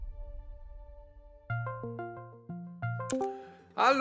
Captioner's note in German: Läuten